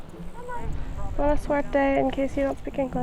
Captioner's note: speaking foreign language